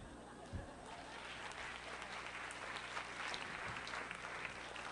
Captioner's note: applause